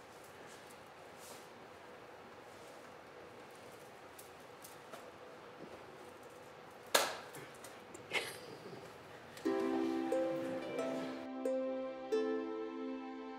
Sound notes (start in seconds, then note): 8.0 laughing; 9.4 light string music